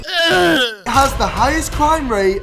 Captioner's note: heaves in disgust